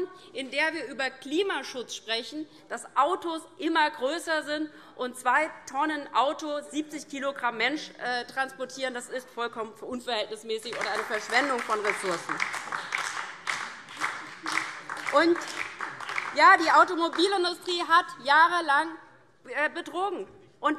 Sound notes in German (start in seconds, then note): 12.6 Beifall DIE LINKE und vereinzelt BÜNDNIS 90/DIE GRÜNEN